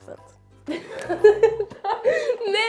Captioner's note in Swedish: skrattar